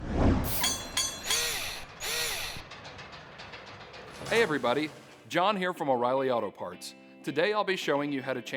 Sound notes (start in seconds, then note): 0.4 mechanical SFX